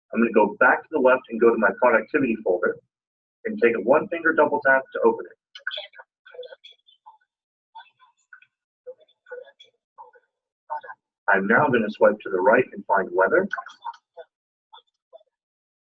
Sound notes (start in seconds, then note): 5.6 indecipherable system noises